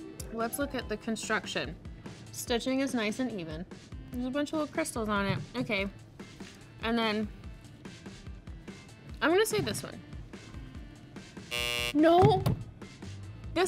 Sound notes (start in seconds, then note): 11.4 buzzer buzzes